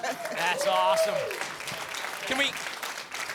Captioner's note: applause